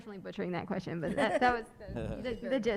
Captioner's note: laughs